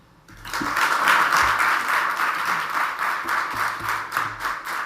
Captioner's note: audience applauds